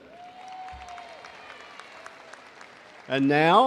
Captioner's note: crowd applauding